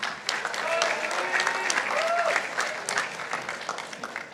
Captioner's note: participants applauding